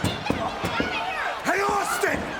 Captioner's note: screaming